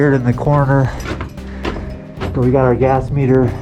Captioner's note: metallic clanking; breathing hard